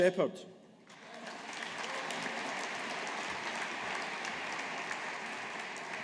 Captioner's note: audience applauding